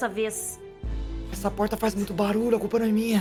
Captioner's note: whispering